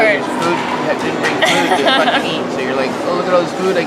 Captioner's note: laughs